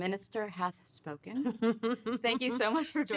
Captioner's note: Rachel laughing